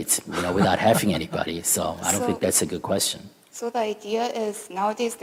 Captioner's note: laughter